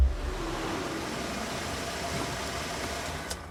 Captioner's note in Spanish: Ruidos del auto llegando